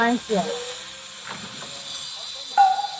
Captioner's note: bzzz